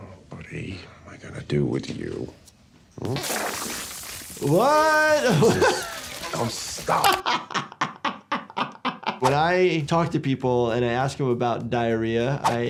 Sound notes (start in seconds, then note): 3.1 water spurting; 4.8 laughing